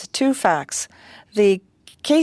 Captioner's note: speaking French